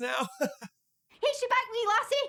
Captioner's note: laughs